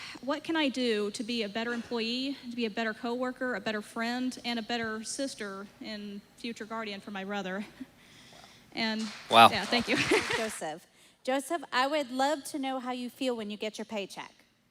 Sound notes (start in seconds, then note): 9.0 applause